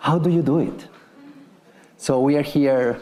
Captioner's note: attendees chuckling